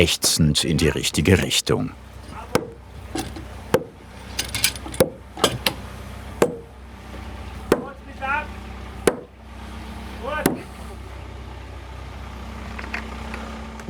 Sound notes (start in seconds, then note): 2.2 dull hammer blows; 7.8 distant shouts